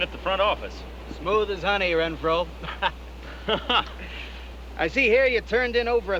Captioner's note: laughing